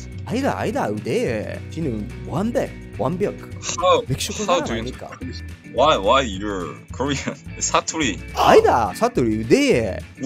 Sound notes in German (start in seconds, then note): 7.8 Dialekt